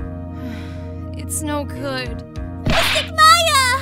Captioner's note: sigh